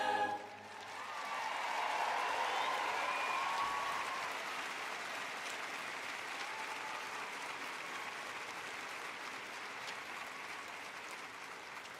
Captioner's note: applause